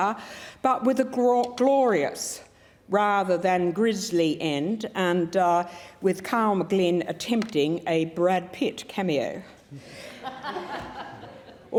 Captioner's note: laughter